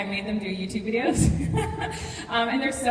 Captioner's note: laughs